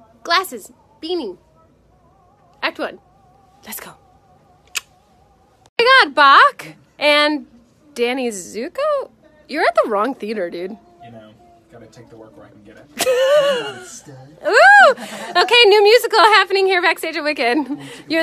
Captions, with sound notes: Glasses, beanie, act one, let's go. (clicks tongue) I got Bach and Danny Zuko? You're at the wrong theater, dude. You know, gotta take the work where I can get it. (laughs) Hey there, stud. Okay, new musical happening here backstage at Wicked.